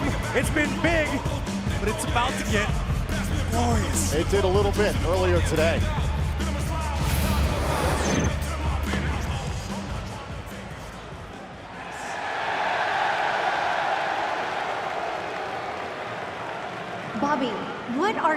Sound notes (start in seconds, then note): 8.7 crowd cheering